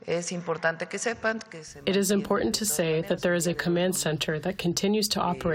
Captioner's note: through translator